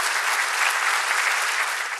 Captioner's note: audience applause